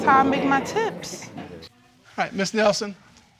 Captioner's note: audience exclaims